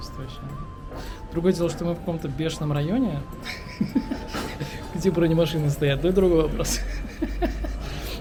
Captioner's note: giggle